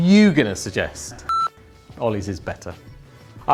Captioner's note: computer beeps